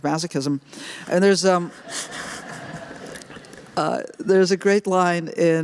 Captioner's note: laughter